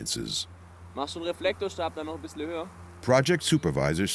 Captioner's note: speaking German